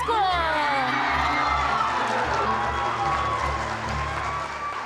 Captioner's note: cheers and applause